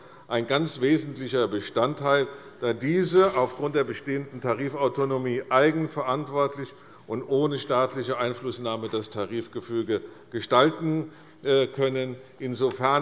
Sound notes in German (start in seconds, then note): none